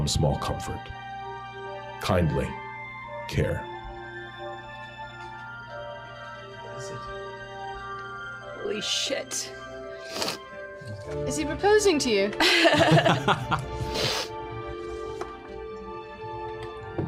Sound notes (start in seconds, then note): 8.0 hoarsely; 12.4 laughter